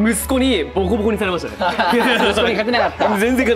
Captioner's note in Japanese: 笑い